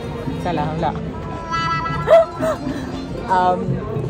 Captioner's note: laugh